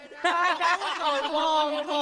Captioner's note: laughter